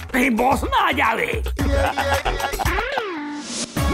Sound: laughing

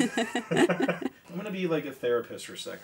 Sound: laughing

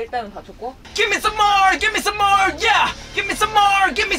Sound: "Give me some more" sounds like a chant

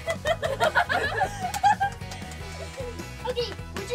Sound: laugh

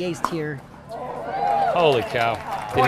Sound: audience clapping

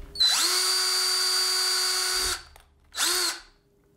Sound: drilling

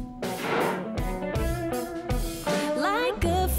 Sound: door slams

